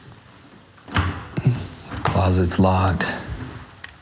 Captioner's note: lock rattling